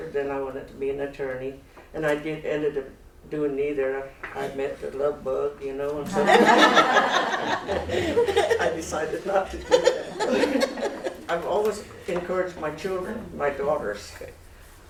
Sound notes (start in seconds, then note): 6.1 laughter